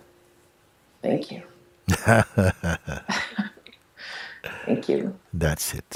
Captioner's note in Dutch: Mooji en vraagsteller lachen